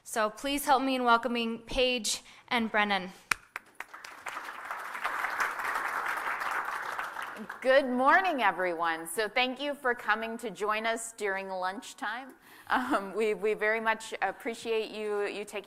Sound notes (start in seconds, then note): 3.4 applause